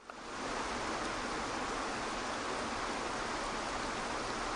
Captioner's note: waterfall rushing